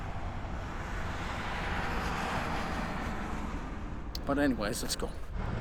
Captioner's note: traffic rumbling and whooshing